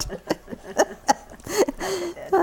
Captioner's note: laughter